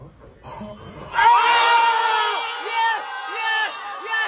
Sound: men screaming

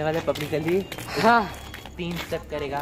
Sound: sighs

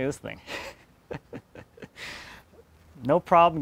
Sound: snickers

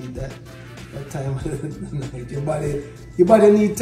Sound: laughs

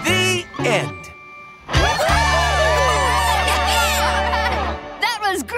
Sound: laughing, cheering

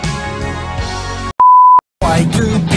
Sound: beep

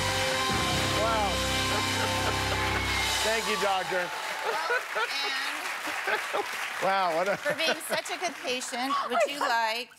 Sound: cheers and applause

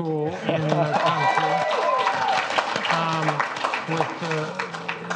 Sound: audience applauds

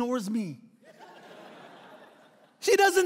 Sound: laughing

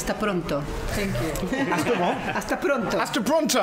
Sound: Spanish; laughter

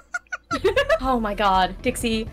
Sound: laughs

